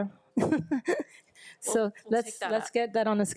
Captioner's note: laughs